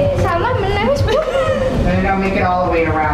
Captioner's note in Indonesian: Ketawa